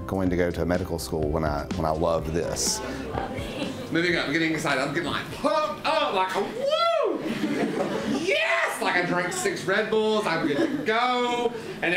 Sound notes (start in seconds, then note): 7.2 laughter